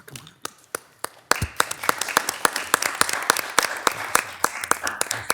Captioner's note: attendees applauding